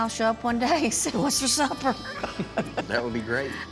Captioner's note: laughs